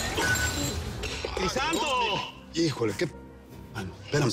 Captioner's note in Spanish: Ruido de la copa al caer